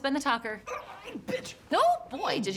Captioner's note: grunting